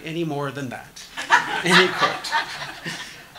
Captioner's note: audience laughing